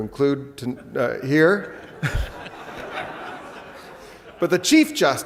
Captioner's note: laughs